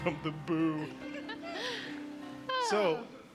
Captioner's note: laughter; laughing